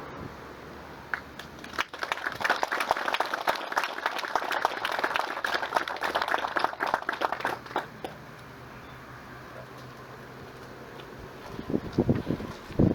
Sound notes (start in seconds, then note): 1.1 applause